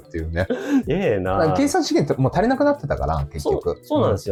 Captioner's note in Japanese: 咳払い